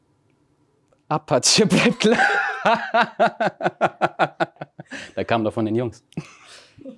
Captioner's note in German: Lacht; lacht herzlich